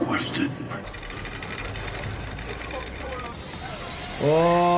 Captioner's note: chains pulling